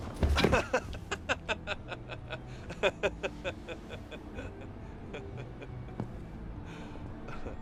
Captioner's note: laughter